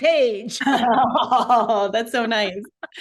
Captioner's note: laughter